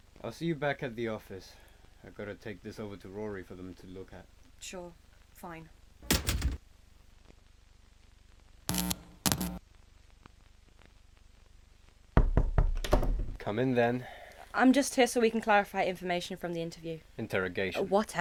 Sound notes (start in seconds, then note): 6.0 heavy door opens then closes; 8.5 knock on door, door opens before invites them in